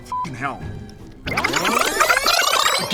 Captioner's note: brrrzzzzzzzzzzzzzzzz